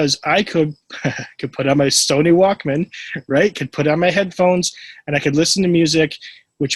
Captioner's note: laughs